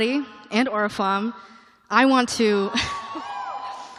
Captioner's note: cheering